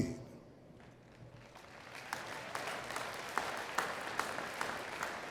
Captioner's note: attendees clapping